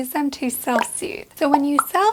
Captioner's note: pop